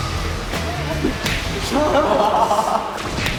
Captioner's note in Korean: 찰싹